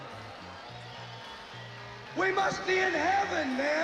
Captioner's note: crowd cheering